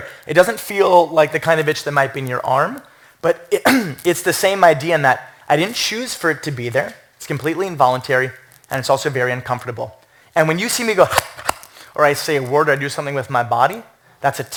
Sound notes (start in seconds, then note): 11.0 chomps